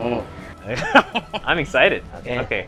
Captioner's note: chuckles